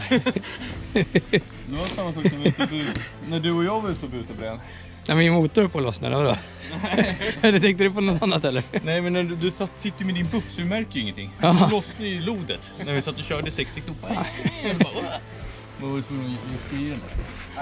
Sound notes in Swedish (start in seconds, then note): 6.3 lauthing